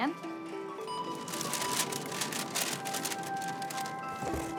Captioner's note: register beeps, paper bag rustles; box thuds